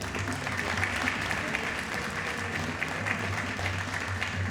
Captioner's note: audience applauding